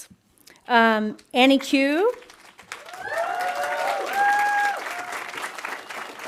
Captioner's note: audience applauding